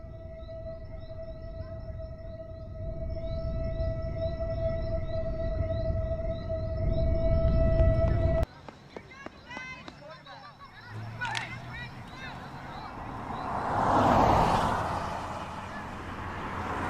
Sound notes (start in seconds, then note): 9.5 traffic rumbling; 10.0 crowd chatter